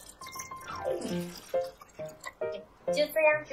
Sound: pouring

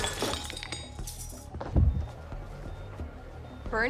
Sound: monitor beeping

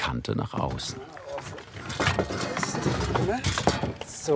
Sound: rumbling

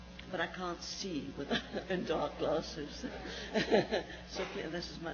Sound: laughs

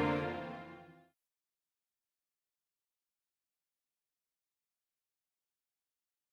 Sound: silence

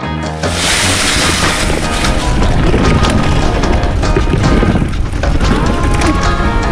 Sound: tires rumbling on the ground; leaves crunching

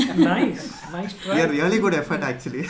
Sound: laughs

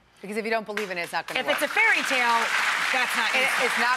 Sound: audience applauding

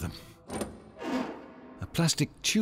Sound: locker door opens

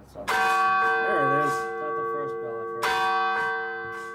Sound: bell chimes

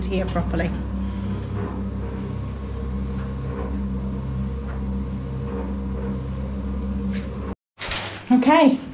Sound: cement mixer turning

